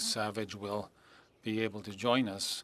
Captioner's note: speaking French